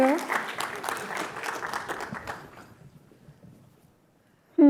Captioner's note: applause